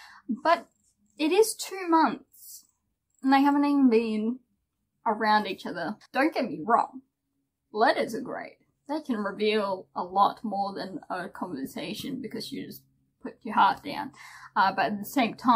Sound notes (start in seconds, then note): none